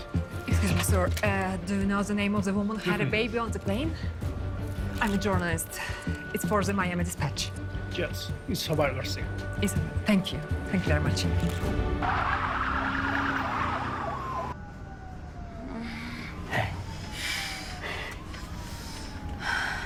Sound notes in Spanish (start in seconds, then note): 11.7 Chirrido de llantas